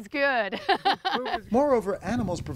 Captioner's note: laughter